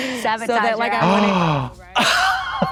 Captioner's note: Katya wheezes; Trixie gasps